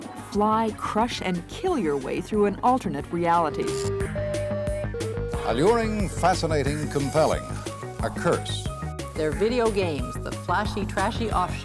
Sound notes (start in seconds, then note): 3.4 digital tones and beeps